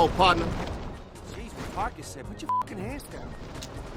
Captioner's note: beep